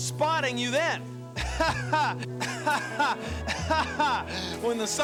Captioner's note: laughs